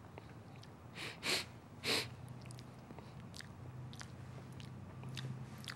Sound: sniffs

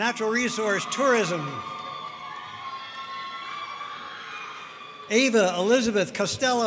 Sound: audience cheering and applauding

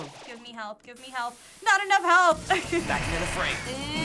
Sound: laughing

